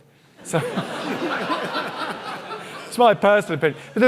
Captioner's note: audience laughing